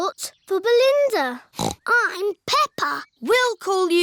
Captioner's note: snorts